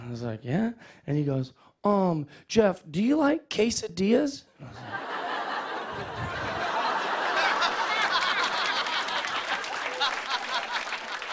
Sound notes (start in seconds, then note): 4.6 laughter; 7.0 applause